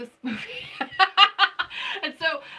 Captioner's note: laughing